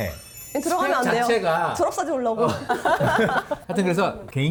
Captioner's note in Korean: 웃음